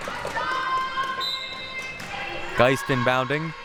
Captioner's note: whistle blowing